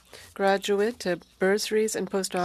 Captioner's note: speaking French